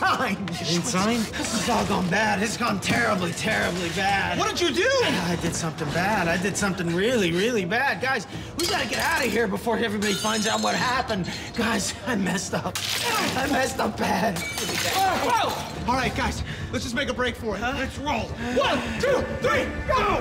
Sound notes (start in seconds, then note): 12.7 smashing glass